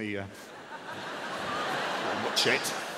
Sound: audience roaring

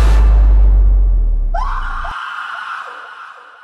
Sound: scream

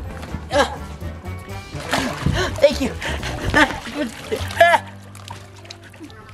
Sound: gasps; exclaims

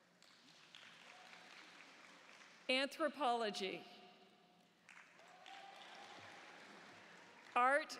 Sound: applause

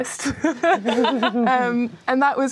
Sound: laughing

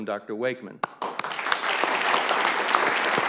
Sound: applause

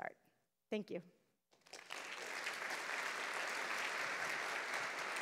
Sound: applause

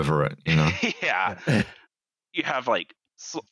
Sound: laughs

